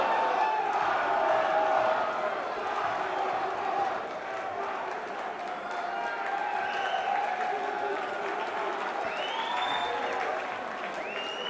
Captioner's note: crowd cheering; crowd chatter